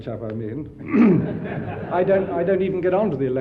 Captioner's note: audience laughs